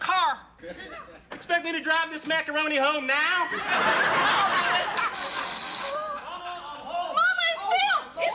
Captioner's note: laughter